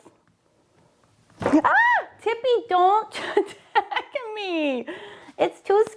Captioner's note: screams